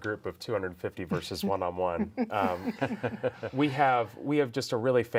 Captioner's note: group laughs